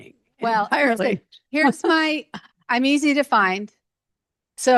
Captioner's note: laughs